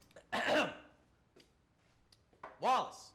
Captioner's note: Steve clears throat